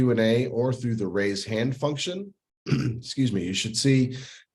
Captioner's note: coughs